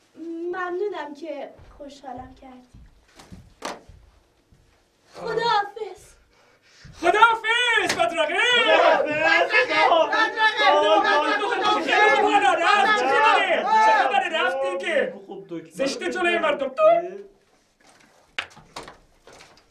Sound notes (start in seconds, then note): 7.0 fake celebrating sound